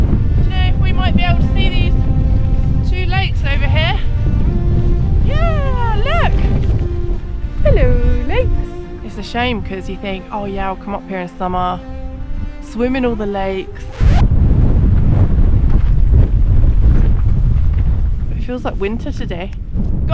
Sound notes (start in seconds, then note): 4.6 wind; 14.0 wind and general foreboding